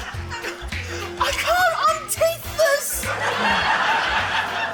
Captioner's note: laughter